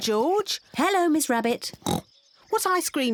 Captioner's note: oinks